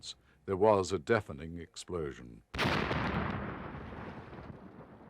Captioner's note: bomb exploding